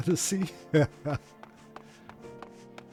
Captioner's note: laughs